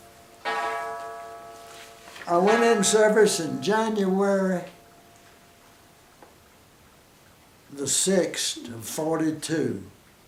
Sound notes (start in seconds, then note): 0.1 clock chimes; 4.8 silence